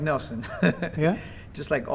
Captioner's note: laughter